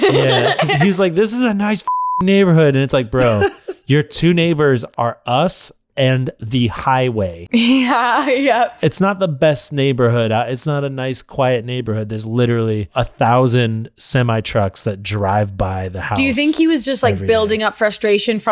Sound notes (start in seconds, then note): 0.0 laughter; 7.8 laughs